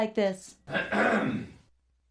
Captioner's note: cough